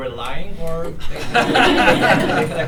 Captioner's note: laughter